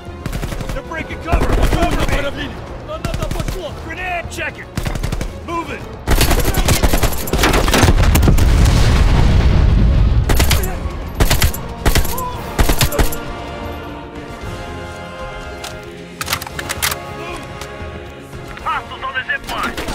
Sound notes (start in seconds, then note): 7.3 gunshots